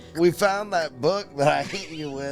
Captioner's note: laughing